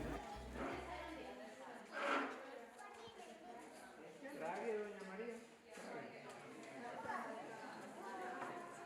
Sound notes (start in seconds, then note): 0.0 music fades out; 3.1 indistinct chatter